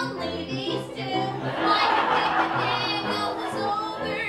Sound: laughter

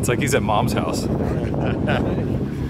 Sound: laughter

